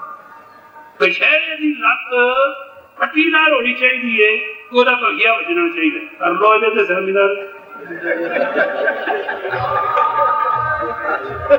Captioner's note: sangat laughed